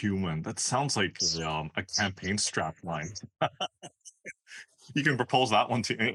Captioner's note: laugh